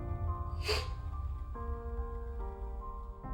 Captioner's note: sniffing